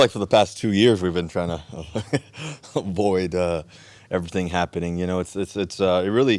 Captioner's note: chuckles